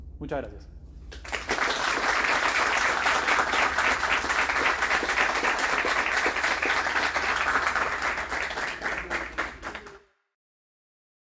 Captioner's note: applause